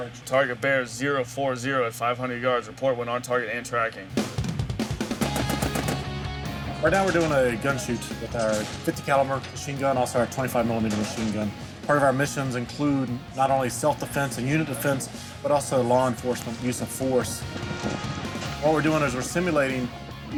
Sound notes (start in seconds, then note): 4.2 machine gun firing; 4.2 rock music